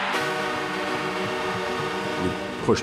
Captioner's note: horn sounding